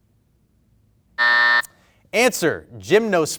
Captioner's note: beep